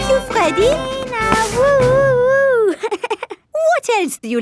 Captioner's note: chuckles